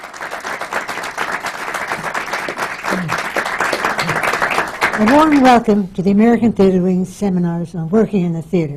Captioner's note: applause